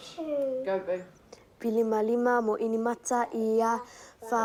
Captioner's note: recites samoan prayer